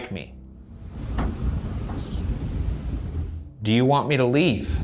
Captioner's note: light knocking